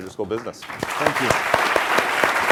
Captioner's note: applause